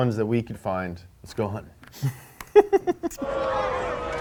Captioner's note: sniffs